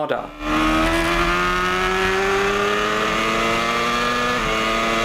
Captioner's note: motorbike engine roaring